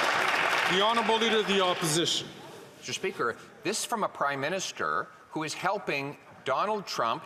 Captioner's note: some Applause